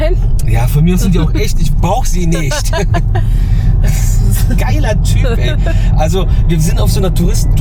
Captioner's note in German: gelächter